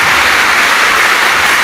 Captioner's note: applause